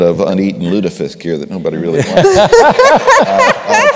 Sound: laughter

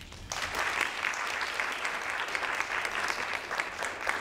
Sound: audience claps

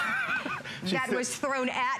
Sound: laughter

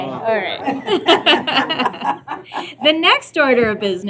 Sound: laughter

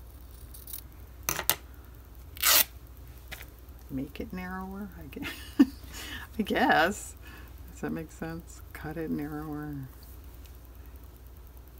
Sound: laughs

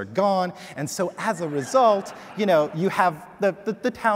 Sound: audience laughing

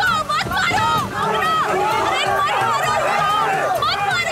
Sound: people shouting

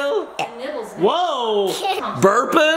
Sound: burps

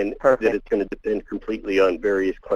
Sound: voiceover

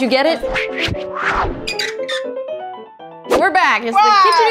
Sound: light ragtime music; hinge creaking

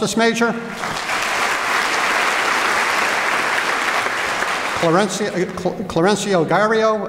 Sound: applause

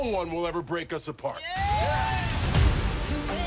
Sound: cheering

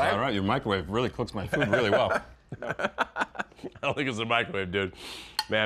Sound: laughs

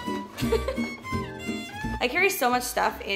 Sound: upbeat music; laughing

